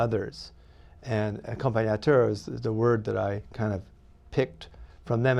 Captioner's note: non-english speech